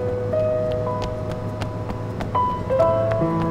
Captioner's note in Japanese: 走る足音